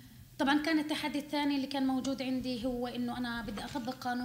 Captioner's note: speaking arabic